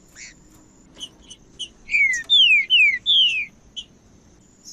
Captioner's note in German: trinca ferro cantando